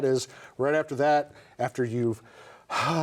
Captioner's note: exhales